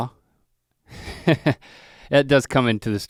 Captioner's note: chuckles